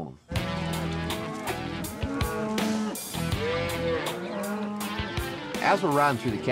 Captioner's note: mooing